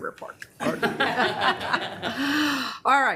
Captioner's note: members laughs